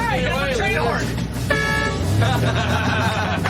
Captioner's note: horn honks; laughter